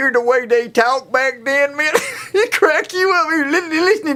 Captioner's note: laughs